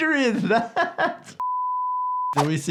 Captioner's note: laughs; screen beeps